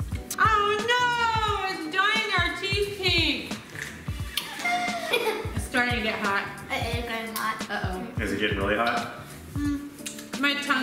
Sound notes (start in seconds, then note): 4.3 laughs